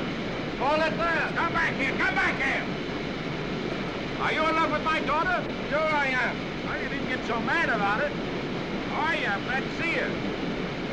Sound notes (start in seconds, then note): none